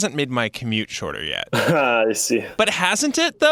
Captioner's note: laughs